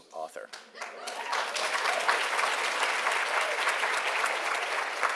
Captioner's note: attendees applauding